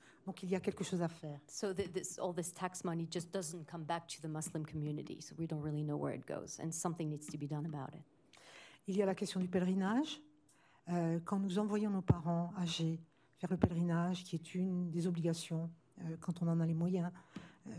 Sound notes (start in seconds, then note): 9.1 speaking french